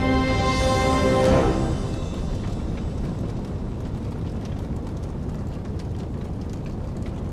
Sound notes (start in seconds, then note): 0.0 dramatic music; 2.2 flames burning